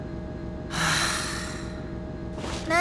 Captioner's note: sigh